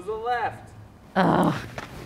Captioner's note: grunting